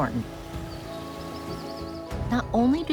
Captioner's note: birds chirping